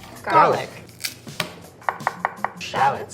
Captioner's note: shell cracks; knife taps